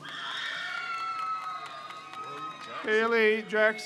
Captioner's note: crowd cheers